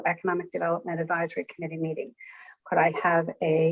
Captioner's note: none